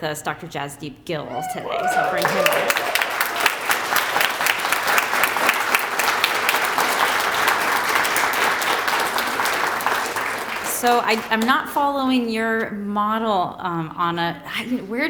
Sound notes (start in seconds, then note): 3.0 applause